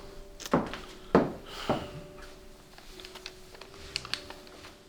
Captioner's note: sighs